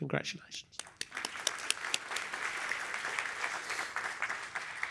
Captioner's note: applause